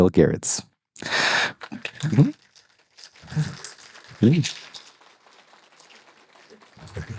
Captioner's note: applause